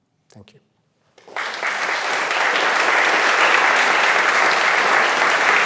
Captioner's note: audience applauds